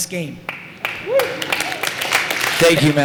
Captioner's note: applause